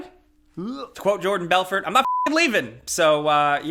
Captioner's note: beep